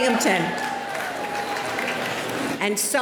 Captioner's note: cheering